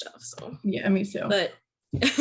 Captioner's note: laugher